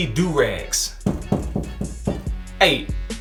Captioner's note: knocking